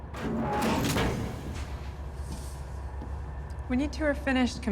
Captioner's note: door opens